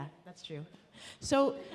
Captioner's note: laughing